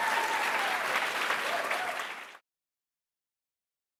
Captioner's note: cheers; applauds